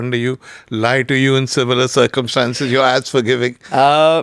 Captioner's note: laughs